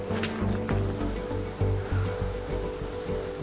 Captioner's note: water rushing